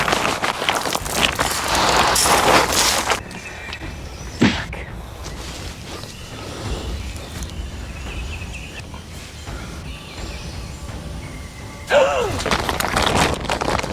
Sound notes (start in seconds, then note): 7.9 taut nylon tripwire rope snaps tight against the metal trigger pin